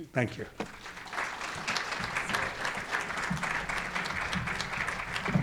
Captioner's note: audience applauding